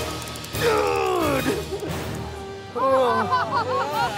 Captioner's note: grunting loudly; laughter